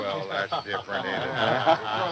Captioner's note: laughing